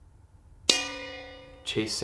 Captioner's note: bell dings